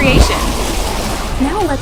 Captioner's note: splashing sound